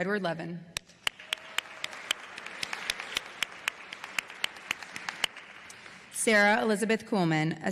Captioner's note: applause